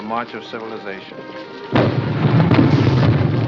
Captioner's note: explosions in distance